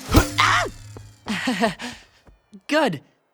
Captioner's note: laughing